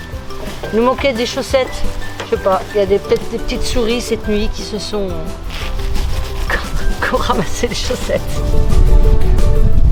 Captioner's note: laugh